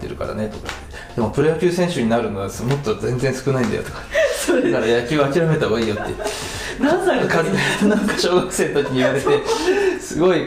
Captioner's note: laughter